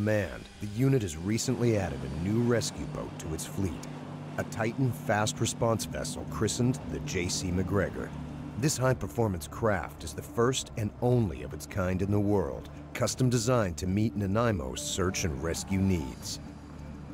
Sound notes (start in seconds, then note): 9.7 voiceover